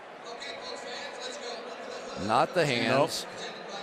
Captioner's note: pa announcement